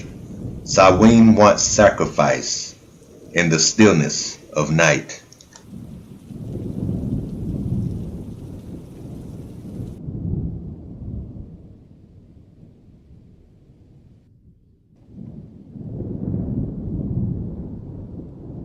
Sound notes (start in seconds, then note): 7.6 rain drops; 12.7 thunder rumbling